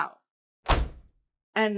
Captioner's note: door slams